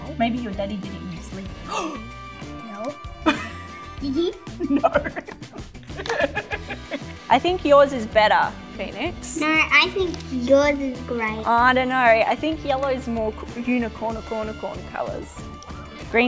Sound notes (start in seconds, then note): 1.6 gasps; 4.4 laughs